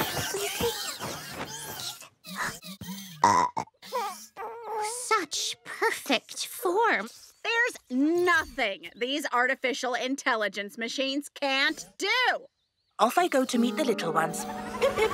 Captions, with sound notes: [burping] Such perfect form. There's nothing these artificial intelligence machines can't do. Off I go to meet the little ones. Pip pip.